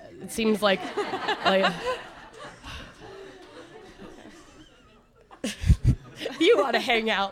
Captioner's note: audience laughter